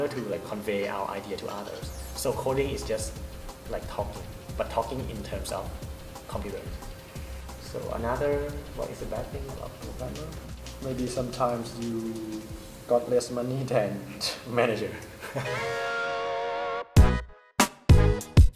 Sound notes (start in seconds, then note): 15.1 laugh